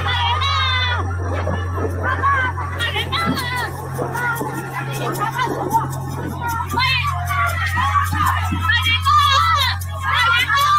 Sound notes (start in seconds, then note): 0.2 dramatic music; 4.2 people shouting in Chinese